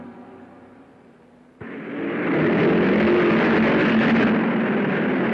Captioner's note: cars revving